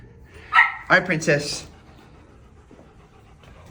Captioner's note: dog barks